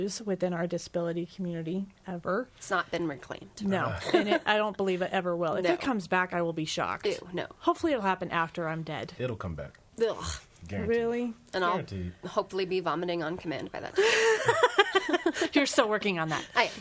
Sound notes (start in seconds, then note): 10.2 gags; 13.9 laughing